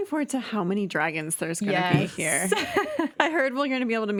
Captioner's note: chuckling